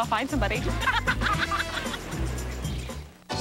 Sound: both laugh

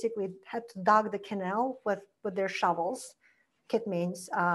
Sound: foreign language

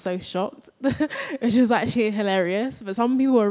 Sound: chuckles

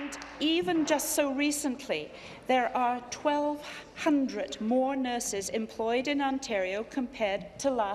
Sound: applause

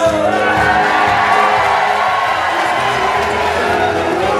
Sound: audience cheers and applauds

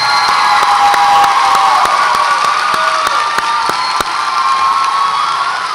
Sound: audience applauds and cheers

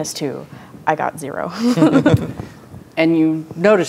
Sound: laughs

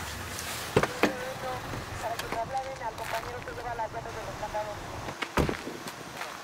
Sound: police Radio; car Door Clossing

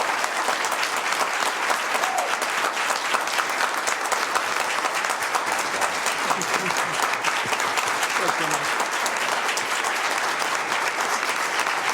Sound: applause

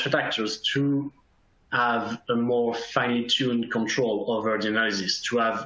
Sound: faintly speaking

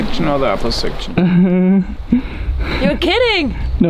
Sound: laughing

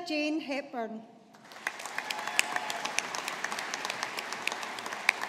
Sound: audience applauding

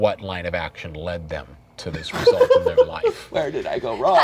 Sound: laughing

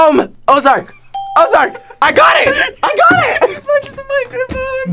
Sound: bell rings

